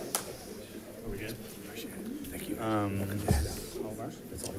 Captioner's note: crowd chattering